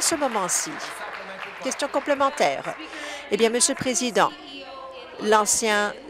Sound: applause

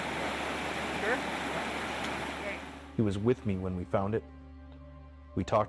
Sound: water gushing

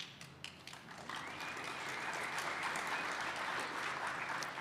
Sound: applause

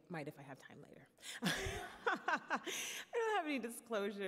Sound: laughs

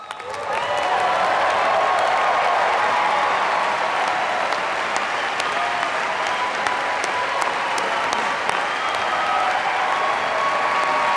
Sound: applause

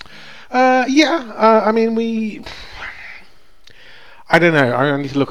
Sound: sighs

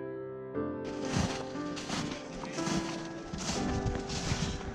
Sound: crunching snow

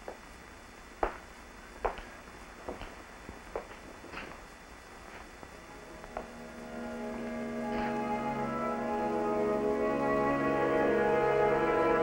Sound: footsteps walking away, then dramatic music

